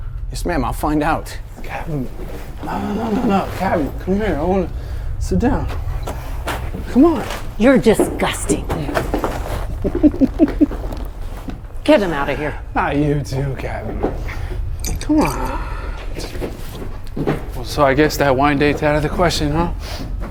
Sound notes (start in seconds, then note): 9.8 Jack laughing